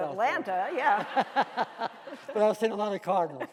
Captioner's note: laughing